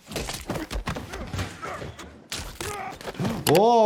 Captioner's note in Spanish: personajes gruñendo